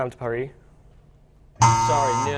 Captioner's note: buzzing